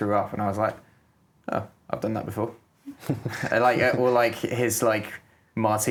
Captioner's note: laughs